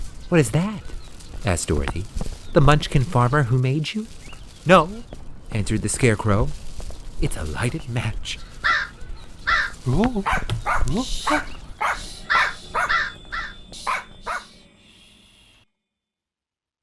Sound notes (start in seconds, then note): 8.3 crow Caws; 9.4 Scarecrow Vocalizes; 11.5 Toto Barks; 11.9 Dorothy Shushes Toto